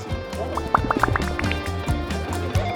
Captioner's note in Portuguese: bolhas estourando